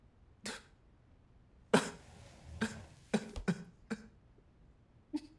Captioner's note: crying continues